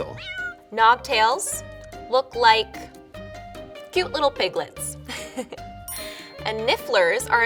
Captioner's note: giggles